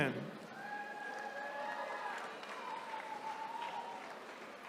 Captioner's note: attendees cheering